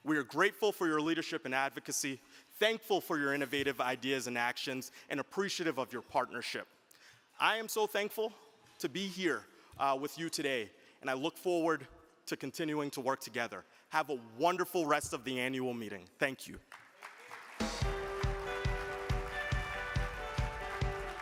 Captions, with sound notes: We are grateful for your leadership and advocacy, thankful for your innovative ideas and actions and appreciative of your partnership. I am so thankful to be here with you today. And I look forward to continuing to work together, have a wonderful rest of the annual meeting, thank you. (crowd clapping) (uplifting music)